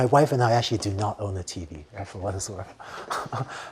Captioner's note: laughter